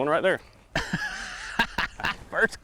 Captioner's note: laughs